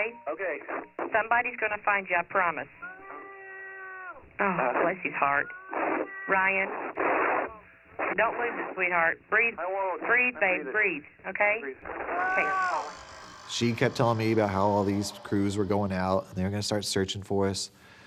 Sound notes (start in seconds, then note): 0.5 on phone; 2.9 distant yelling; 9.2 on phone; 11.4 on phone